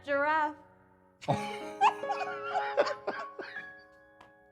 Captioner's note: laughing